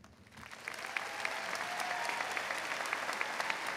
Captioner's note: crowd applauds